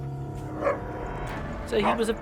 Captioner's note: suspenseful music; dog barking